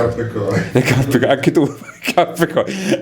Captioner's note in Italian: risate